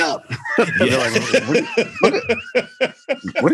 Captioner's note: laughs